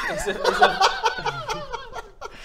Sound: laughing in disbelief

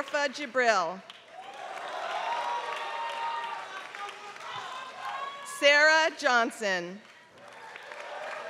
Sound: applause

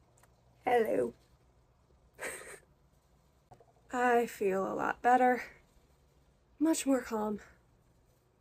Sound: giggles

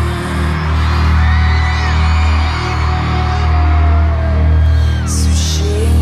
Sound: cheers and applause

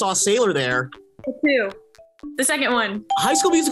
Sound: bell rings

